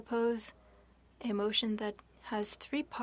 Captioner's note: speaking French